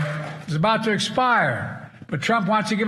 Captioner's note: cheers and applause